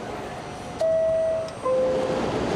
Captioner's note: train chime sounds; train rushes through